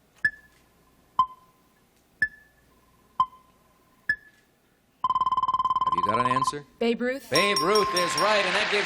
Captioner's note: beeping